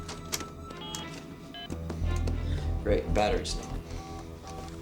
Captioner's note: beeping; beeps